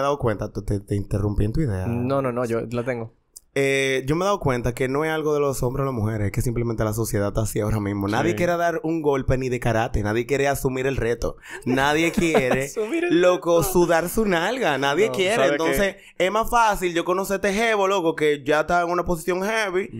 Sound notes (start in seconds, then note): 11.5 laughs